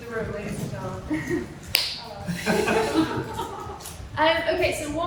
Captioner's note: laughter